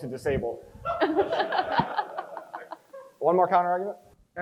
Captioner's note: crowd chuckles